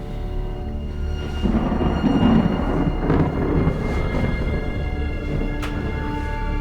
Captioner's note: eerie foreboding music; thunder rumbles